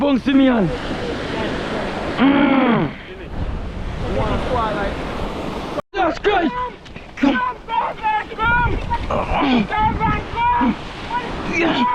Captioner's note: groaning and screaming